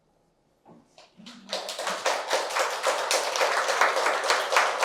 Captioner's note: applause